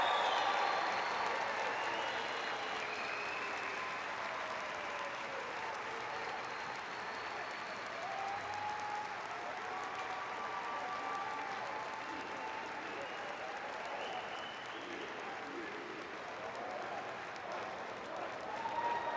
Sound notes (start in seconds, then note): 0.0 cheers and applause; 3.3 applause; 5.5 cheers and applause